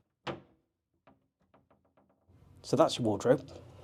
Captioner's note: door clicking